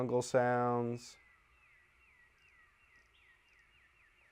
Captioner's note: birds chirp